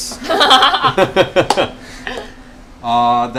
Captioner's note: laughter